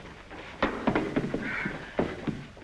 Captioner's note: chair clattering